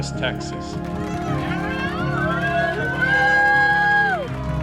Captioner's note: cheers and applause